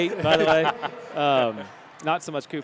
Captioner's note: laughter